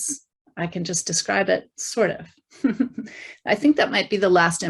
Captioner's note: chuckling